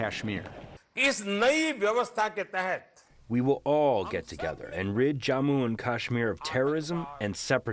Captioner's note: through translator